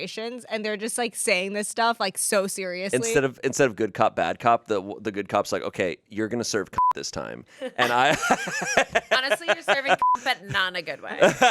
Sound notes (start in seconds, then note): 6.8 beep; 7.7 laughs; 10.0 beep; 11.0 laughs